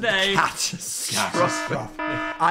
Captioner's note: horn bellows